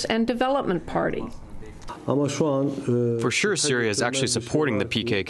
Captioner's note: through translator